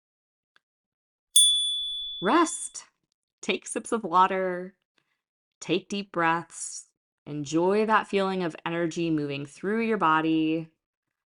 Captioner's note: chime